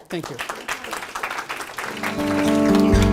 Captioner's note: applause